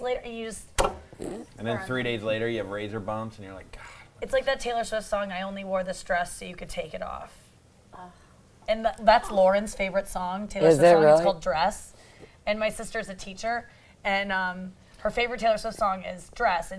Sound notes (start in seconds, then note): 8.0 scoffs